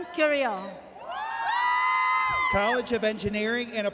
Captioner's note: audience cheers